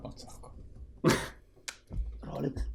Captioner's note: laugh